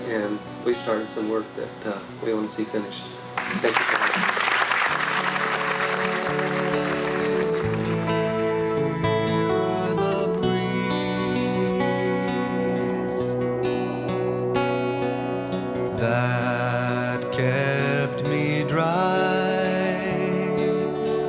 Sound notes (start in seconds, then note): 3.3 audience applauding; 12.9 wind blowing